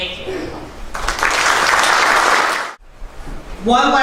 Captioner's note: applause